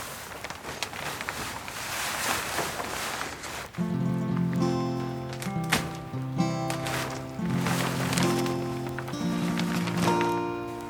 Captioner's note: sound coming from working and moving greenhouse poly